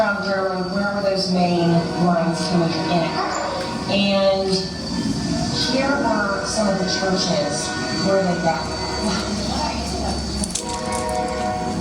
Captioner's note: female voice in English; background: train horn, dog barking; background: train horn, train wheels to slow screeching halt